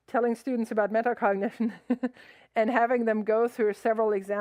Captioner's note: laughs